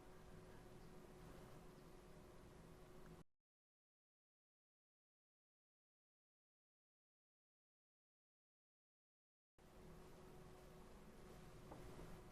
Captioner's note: silence